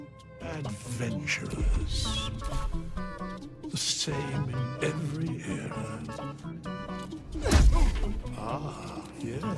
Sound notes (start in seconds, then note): 7.4 Tav and withers grunting